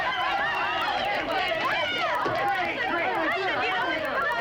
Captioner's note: cheering